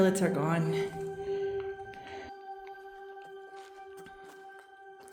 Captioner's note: footsteps